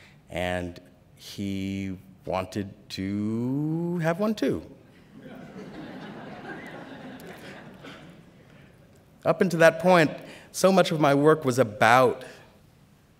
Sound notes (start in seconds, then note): 4.9 laughter